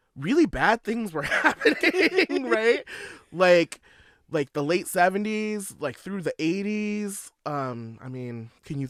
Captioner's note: laughter